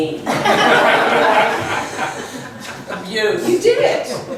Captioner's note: laughs; voiceover